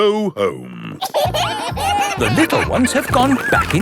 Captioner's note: kids giggling